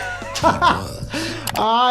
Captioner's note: laughing